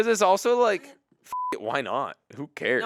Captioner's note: beep